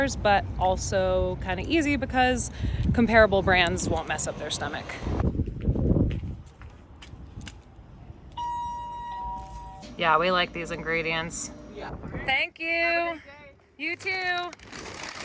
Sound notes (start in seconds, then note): 8.4 doorbell dinging